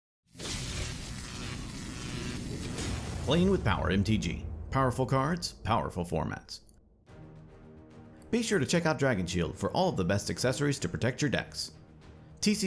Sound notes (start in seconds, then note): 0.3 electricity zapping; 6.9 courageous music